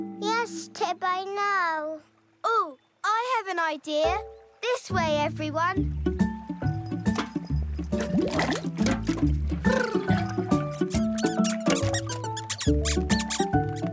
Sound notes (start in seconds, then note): 6.1 cheerful music; 10.0 Gordy trills